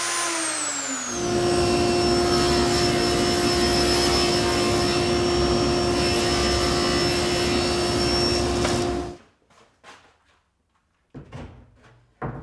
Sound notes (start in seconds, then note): 1.7 saw whirring